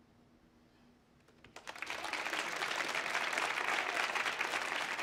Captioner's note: audience applauds